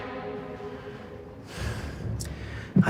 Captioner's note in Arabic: تنهدات